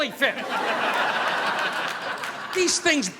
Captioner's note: audience laughing